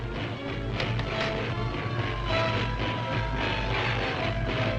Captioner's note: electricity crackling